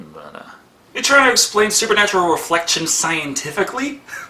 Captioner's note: laughs maniacally at self